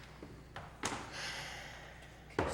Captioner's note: sighs